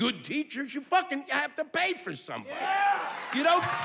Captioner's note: yelling